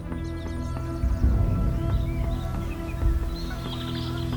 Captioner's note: birds chirp